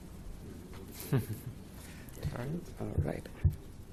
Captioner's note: laughing